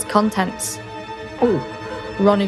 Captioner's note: gulp